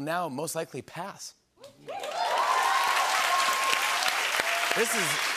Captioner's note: cheers and applause